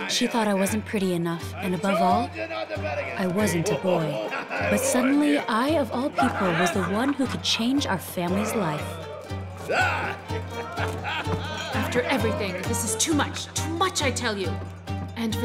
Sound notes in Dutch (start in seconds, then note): 9.8 mannen lachen; 9.8 mannen schreeuwen